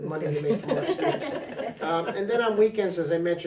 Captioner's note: others laughing